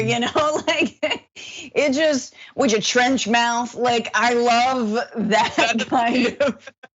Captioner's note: laugh